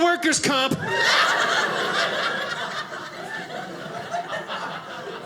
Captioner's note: audience laughing